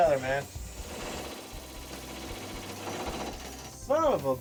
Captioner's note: engine rumbling